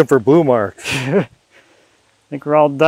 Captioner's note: chuckling